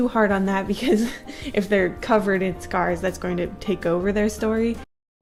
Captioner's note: chuckles